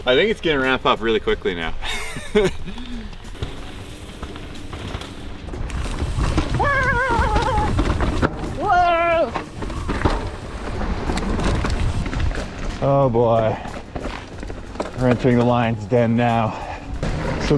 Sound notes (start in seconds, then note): 1.8 laughs; 5.7 shouting; 5.7 wheels whooshing